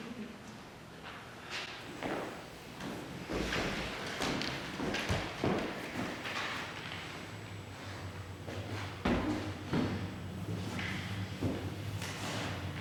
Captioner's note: rumbling ambient sound